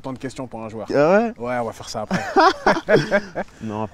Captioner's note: laughs